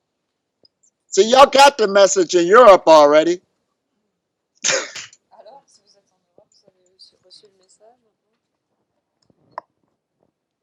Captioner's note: laughs